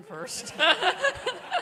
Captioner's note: laughter